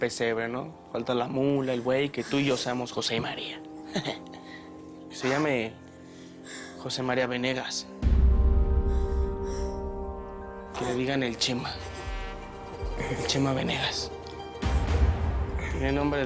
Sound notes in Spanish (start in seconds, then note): 3.8 Ríe ebrio